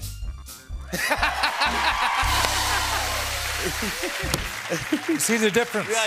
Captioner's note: cheers and applause